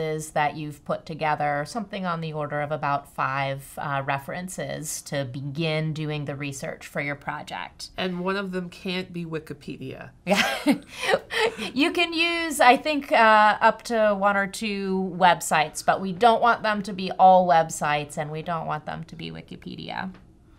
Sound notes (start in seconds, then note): 10.2 woman laughs